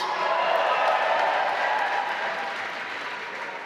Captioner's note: applause